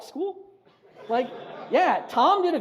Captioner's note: audience laughs